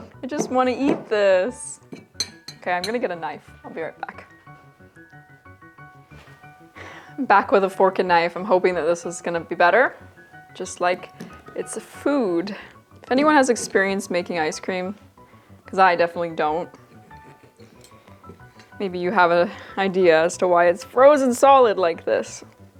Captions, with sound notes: I just want to eat this. Okay, I am going to get a knife. I'll be right back. (sighs) I'm back with a fork and knife. I'm hoping that this is going to be better, just like it's a food. If anyone has experience making ice cream, because I definitely don't, Maybe you have a idea as to why it's frozen solid like this.